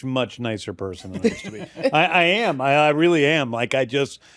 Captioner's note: laughter